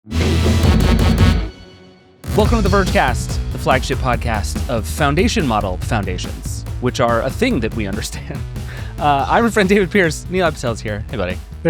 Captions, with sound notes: (energetic music) - Welcome to The Vergecast, the flagship podcast of foundation model foundations, which are a thing that we understand. (laughing) I'm your friend, David Pierce. Nilay Patel is here. Hey, buddy.